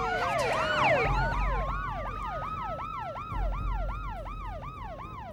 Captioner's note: sirens wail